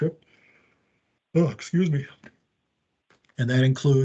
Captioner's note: yawns